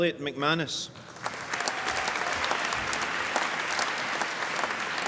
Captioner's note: applause